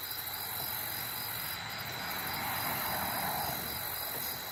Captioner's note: crickets chirping; traffic humming